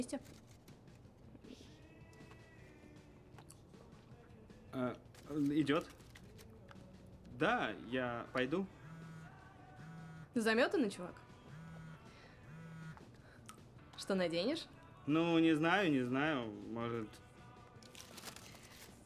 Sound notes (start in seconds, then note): 7.0 cellphone vibrates